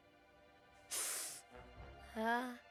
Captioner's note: sniffling